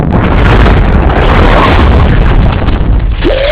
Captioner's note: Kinger and Gangle shouting